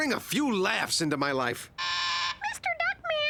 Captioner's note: intercom buzzing